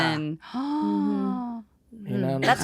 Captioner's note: gasps